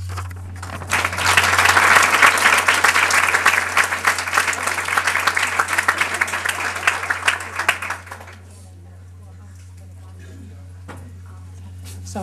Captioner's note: applause